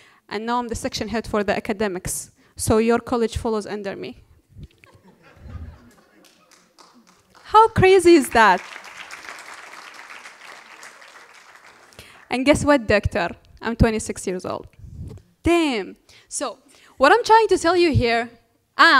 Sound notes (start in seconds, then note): 4.7 laughter; 9.9 applause